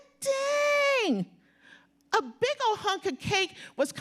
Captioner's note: none